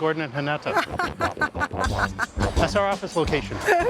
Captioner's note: laughs